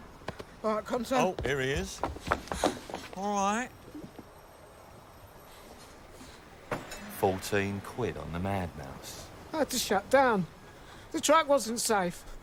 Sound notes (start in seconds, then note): 2.0 pants